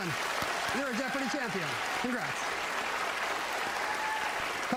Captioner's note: applause